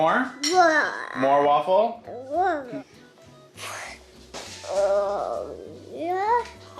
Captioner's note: babbling